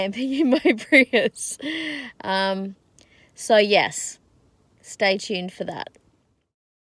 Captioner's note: chuckles